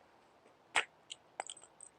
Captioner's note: smack